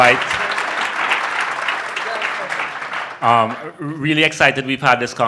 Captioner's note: audience applauding